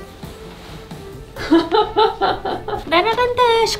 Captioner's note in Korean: 웃음